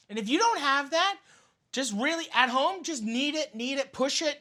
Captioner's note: none